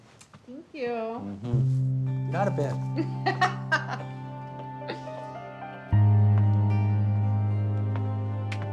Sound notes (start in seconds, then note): 3.5 laughs